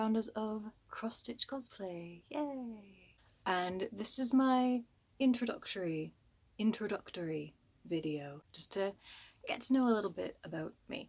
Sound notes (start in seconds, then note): 5.0 slurred